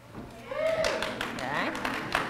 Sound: cheers

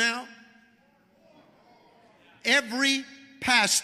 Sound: congregation shouting

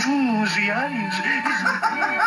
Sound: speaking French

